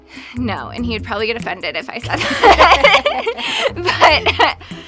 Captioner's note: laughs